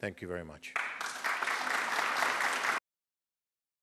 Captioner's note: applause